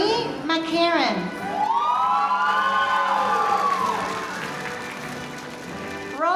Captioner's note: audience applauding